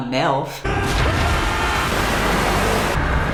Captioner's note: screaming